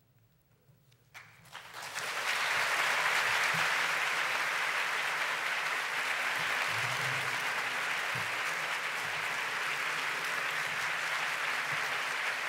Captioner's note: applause